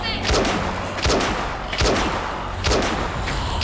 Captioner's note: gun shots